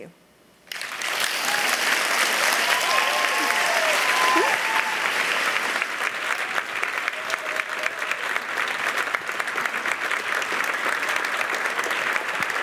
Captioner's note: applause; cheers